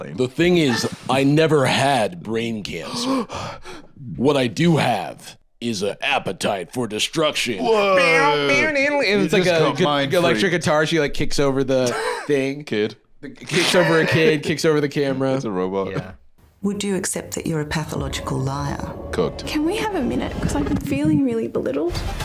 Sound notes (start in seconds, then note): 2.8 gasps